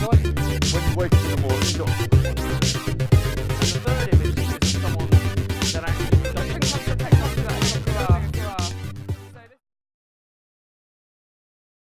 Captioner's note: laughs